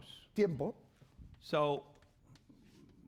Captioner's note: speaking spanish